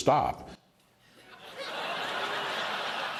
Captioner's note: laughter